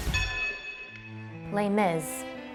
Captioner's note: bell rings